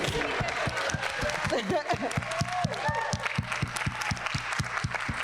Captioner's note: people clapping